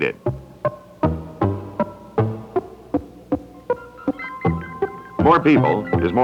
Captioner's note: Electronic audio effects